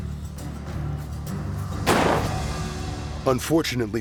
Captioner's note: gunshot